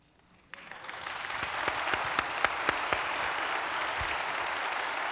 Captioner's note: applause